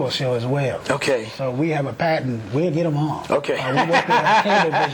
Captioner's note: okay laughter